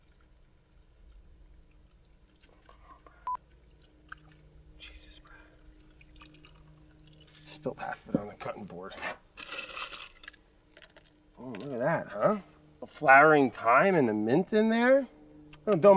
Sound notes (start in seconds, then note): 9.4 ice rattling